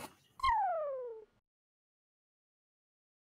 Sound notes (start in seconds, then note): 0.4 whistle